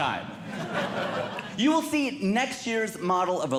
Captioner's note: audience Laughing